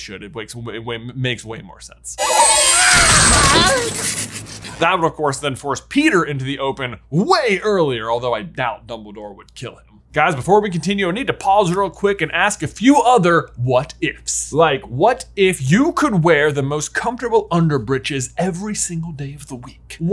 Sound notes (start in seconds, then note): 2.2 Wormtail screams